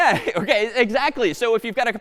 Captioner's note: laughs